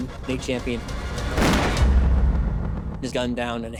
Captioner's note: gunshot